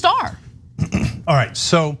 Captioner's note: cough